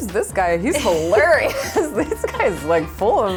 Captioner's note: laughter